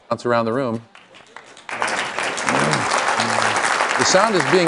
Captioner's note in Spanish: Aplausos